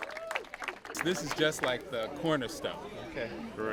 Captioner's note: applause